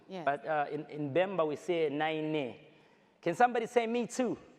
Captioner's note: speaks foreign language